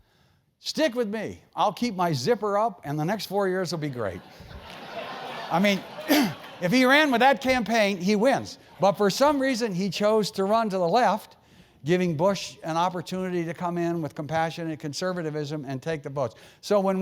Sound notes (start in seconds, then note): 4.3 laugh; 6.1 cough